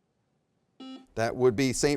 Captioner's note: buzzer beeps